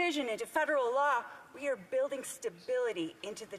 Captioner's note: speaking indigenous language